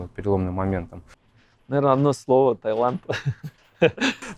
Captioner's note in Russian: смех